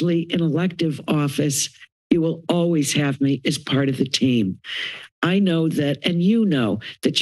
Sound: inhales

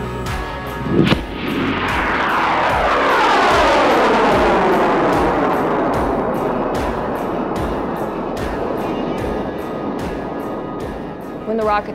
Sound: rocket Launching

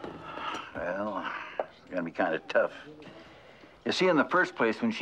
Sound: sighing

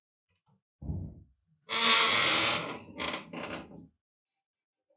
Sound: creaks

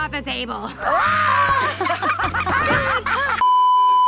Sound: squeaky boots; also in hysterics; laughing hysterically; beeeeeep

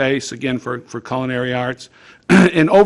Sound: clearing throat

